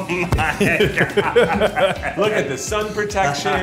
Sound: laughing

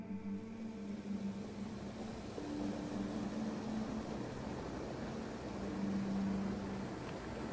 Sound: flowing Water Sounds

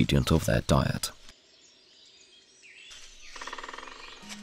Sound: sounds of nature; music, sounds of nature

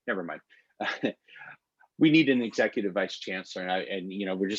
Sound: laughter

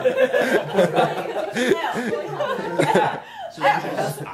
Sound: laughing

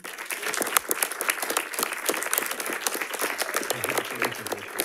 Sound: audience applauding

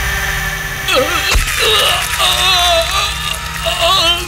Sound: groans

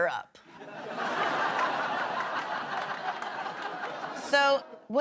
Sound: laughter

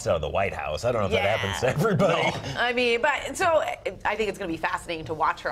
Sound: laughter

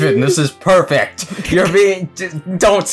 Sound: chuckles

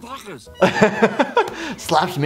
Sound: laughing

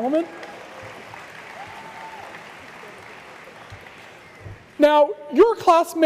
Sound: applause

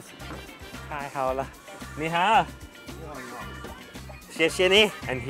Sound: speaks in Chinese

